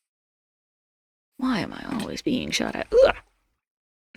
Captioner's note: uerhhhh